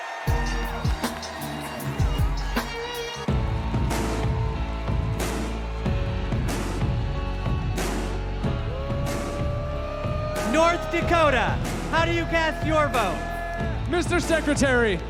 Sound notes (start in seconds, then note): 0.0 cheers and applause